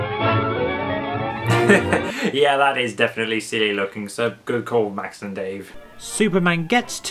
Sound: chuckles

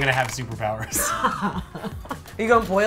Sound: laughs

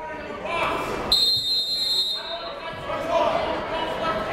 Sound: buzzer; whistle

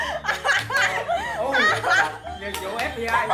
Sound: laugh

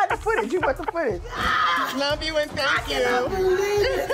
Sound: screams

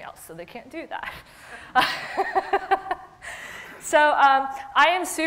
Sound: laughs

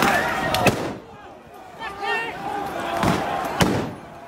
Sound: crowd yelling

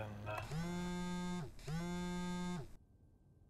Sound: phone vibrates

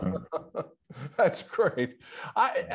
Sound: laughing

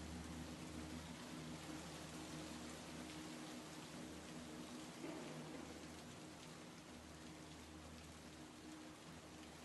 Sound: rain

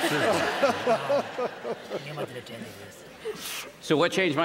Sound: laughter

